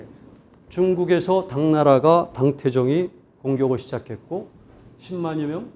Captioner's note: speaking in Korean